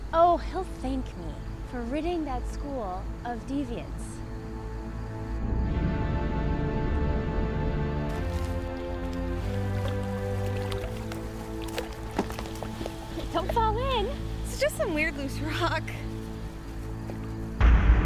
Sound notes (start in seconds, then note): 6.0 ominous music; 10.8 water splashing